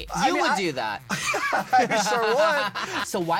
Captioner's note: laughs